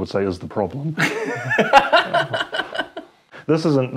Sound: laughs

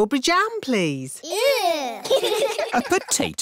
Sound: giggling

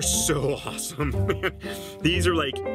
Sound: laughs

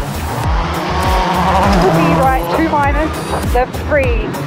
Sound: engine revs

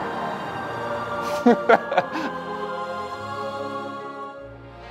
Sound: chuckling

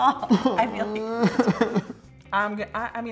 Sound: laughs

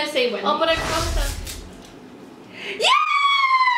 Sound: whooshing

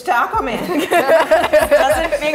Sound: all laughing

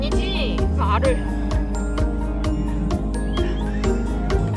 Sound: he's laughing 😂

